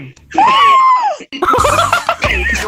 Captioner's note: gasps in Mouse